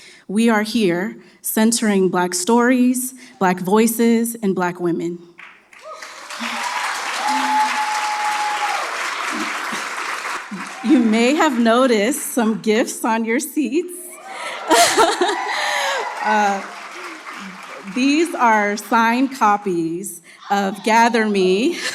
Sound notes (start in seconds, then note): 5.7 cheers; 14.0 laughs